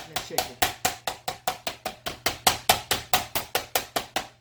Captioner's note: hammering